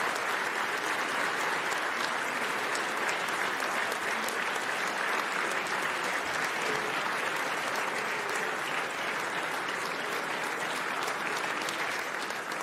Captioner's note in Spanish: aplausos